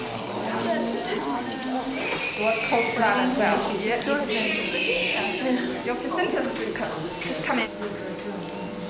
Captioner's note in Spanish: Pláticas, bebé llorando